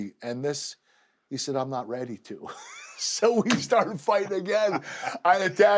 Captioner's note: laugh